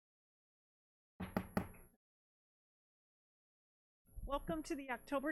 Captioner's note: gavel knocking